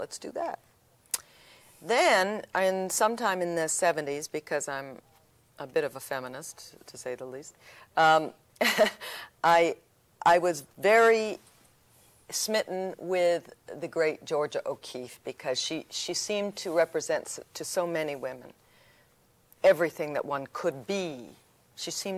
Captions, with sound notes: they said, yes, let's do that. Then in sometime in the ‘70s, because I'm a bit of a feminist, to say the least, [laughs] I, I was very smitten with the great Georgia O'Keefe because she, she seemed to represent to so many women everything that one could